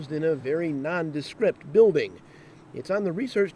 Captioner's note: voiceover